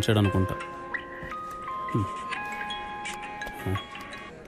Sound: phone ringing

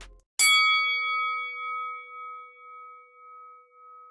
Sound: bell ringing

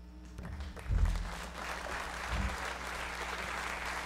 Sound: audience applauding

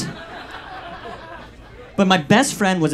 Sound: audience laughs

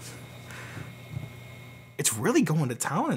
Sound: computer humming

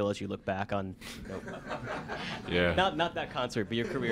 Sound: laughter

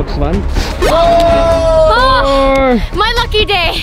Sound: jump squeaks

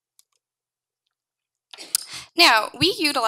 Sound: mouse clicking

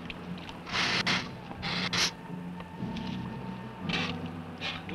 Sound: Gila monster hissing

